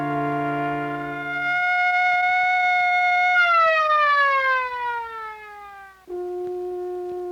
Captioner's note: siren